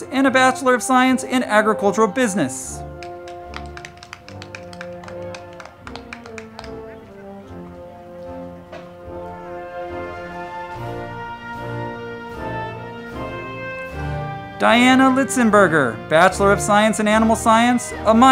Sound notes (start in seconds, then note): 2.8 crowd clapping; 3.2 band music